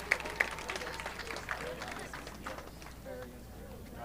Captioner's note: audience clapping